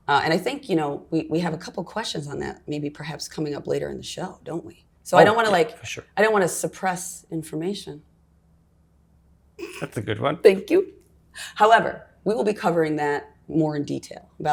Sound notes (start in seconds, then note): 9.6 stifled laugh